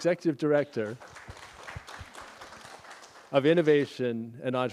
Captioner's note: applause